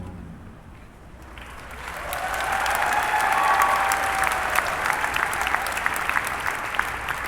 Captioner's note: clapping